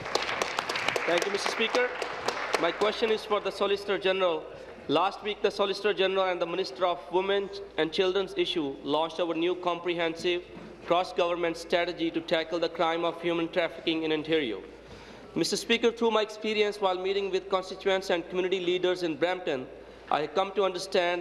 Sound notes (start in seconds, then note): 0.0 applause; 4.2 applause